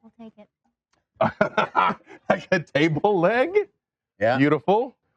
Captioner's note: laughs